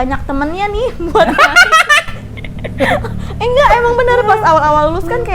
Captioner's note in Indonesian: Laughing